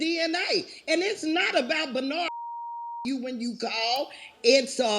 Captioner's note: beep